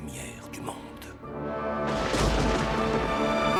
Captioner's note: thunder